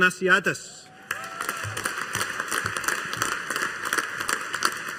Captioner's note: audience applauding